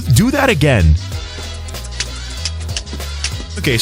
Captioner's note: Link beatboxes